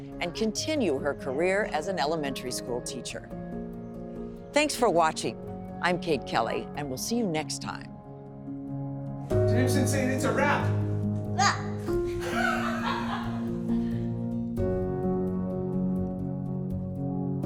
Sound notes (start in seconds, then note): 12.0 laugh; 14.6 gentle music